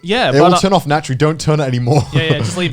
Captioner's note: chuckling